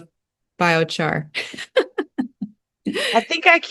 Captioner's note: laughs